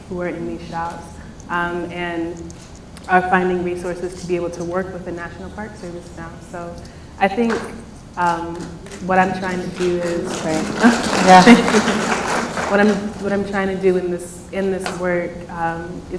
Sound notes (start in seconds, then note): 10.4 applause; 12.1 laughs